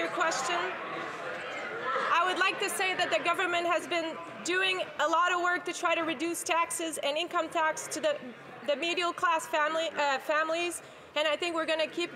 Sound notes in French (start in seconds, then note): 1.3 voix de l'interprète